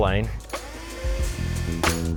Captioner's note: vacuum humming; upbeat music